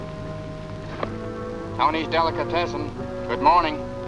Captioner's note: on phone